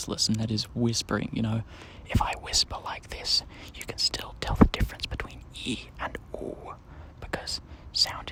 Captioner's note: whispering